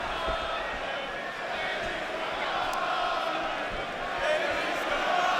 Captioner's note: crowd chants indistinctly